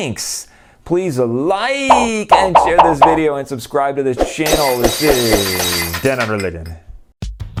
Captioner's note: popping noises; glass breaking